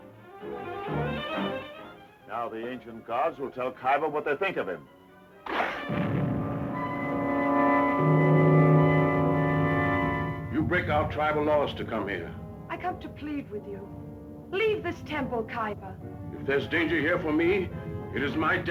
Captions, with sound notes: - Now the ancient gods will tell Kyba what they think of him. (exploding) - You break our tribal laws to come here. - I come to plead with you. Leave this temple, Kyba. - If there's danger here for me, it is my destiny.